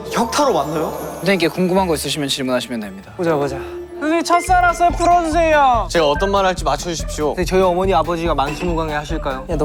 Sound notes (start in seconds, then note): 3.5 in a solemn tone